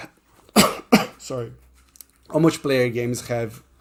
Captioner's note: coughs